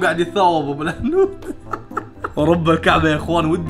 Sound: laughs

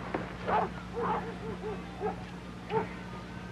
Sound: dog barking

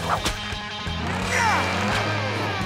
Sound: grunting

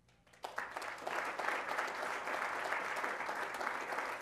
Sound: applause

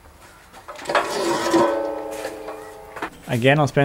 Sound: saw clanking

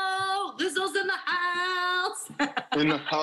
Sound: laughter

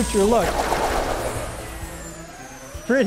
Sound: robot whizzing and firing

